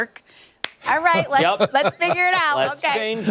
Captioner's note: laughter